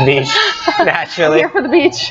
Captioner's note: laughs